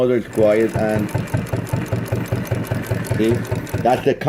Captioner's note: rattling